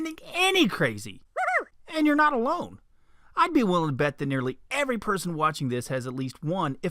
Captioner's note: funny voice; man's voice